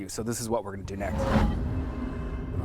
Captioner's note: warping noise